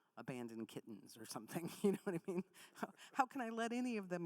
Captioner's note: laughs